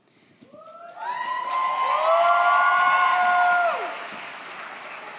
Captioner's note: audience cheers